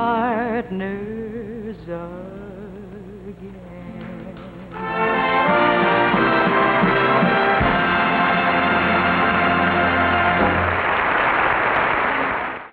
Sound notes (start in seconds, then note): 4.8 audience applauding